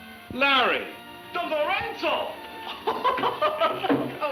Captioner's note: speaking in Spanish